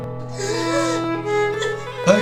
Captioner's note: cry